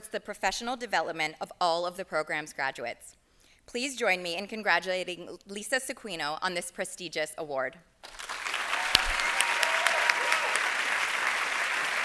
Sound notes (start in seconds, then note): 8.0 applause